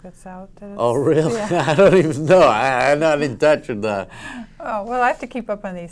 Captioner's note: laughs